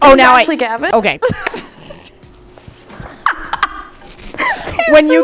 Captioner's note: laughing